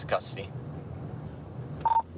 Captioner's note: radio beeps